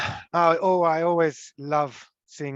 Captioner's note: continues speaking in Italian